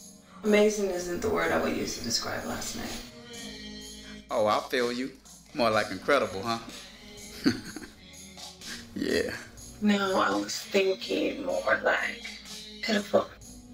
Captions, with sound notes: Amazing isn't the word I'd use to describe last night. Oh I feel you, more like incredible huh? [Malik snickers] Yeah... No, I was thinking more like... pitiful.